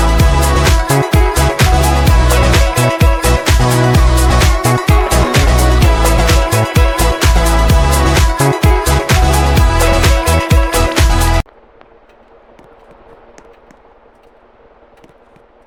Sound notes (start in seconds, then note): 11.4 other ceiling fan making noises